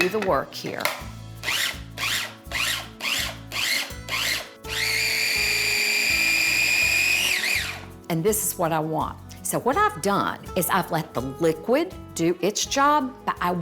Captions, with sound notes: do the work here. [motor pulsing] And this is what I want. So what I've done is I've let the liquid do its job,